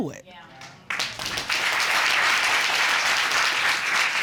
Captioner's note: audience applauding